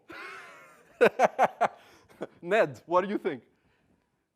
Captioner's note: laugh